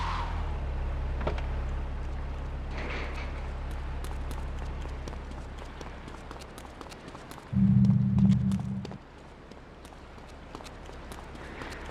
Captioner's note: gunshots; ominous music